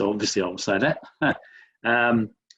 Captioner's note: laughs